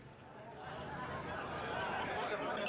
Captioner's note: people talking in background